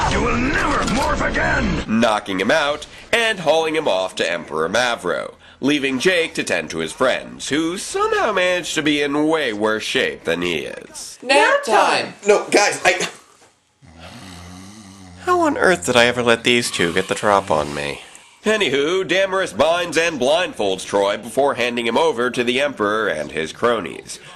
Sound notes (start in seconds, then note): 13.8 snoring